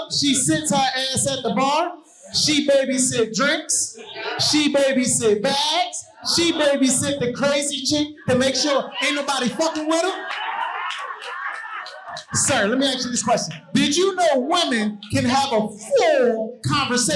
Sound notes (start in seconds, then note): 11.1 audience cheering and applauding